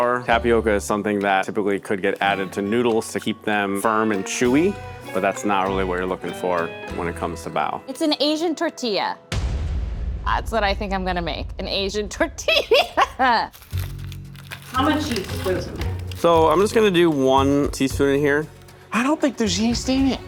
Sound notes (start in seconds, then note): 9.3 metal slamming; 12.4 laughing; 13.2 package rustling; 18.1 ominous music